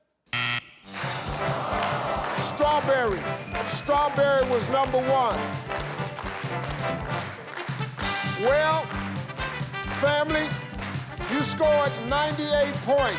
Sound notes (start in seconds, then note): 0.3 buzzer rings; 0.9 audience groans